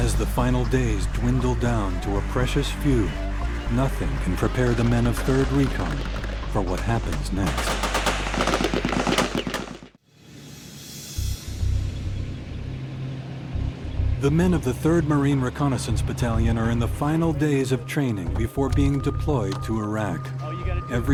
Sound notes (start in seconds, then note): 0.2 voiceover; 7.7 automatic gunfire; 10.4 suspenseful music